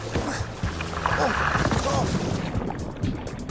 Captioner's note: grunting